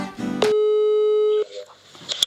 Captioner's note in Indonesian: telefon berdering